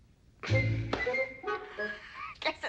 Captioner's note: giggling